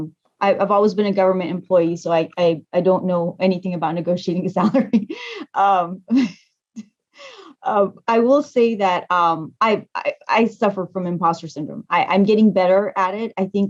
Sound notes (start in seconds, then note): 5.8 laughs